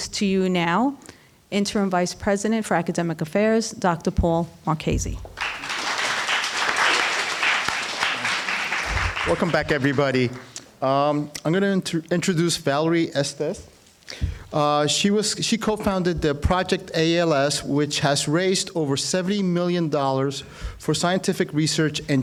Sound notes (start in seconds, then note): 5.3 applause